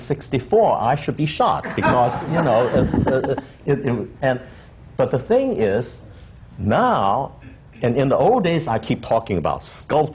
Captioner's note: laughter